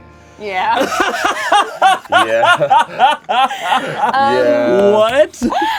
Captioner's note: everyone laughs